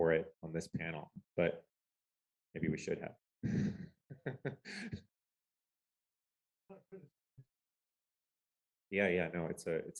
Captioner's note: laughter